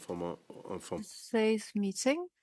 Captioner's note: speaking French